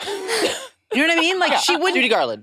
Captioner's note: participants laughing